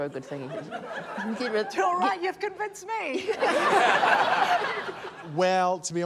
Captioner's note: laughter